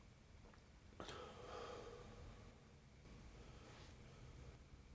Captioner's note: Triston sighs